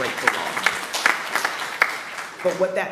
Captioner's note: attendees clapping